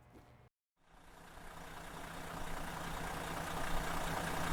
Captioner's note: engine running